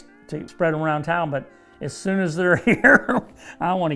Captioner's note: laughs